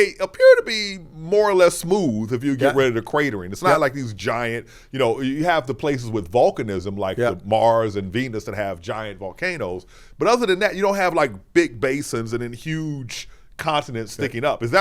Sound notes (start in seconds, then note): none